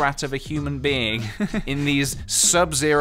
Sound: laughs

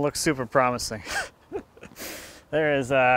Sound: laughing

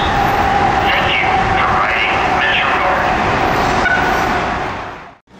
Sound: beep

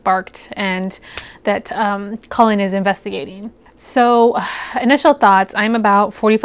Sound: sigh

